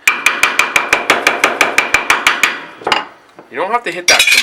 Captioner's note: hammering on metal